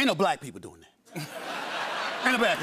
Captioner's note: laughter